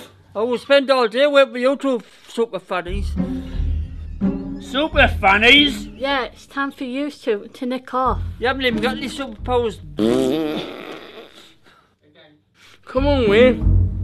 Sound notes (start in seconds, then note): 9.9 blows raspberry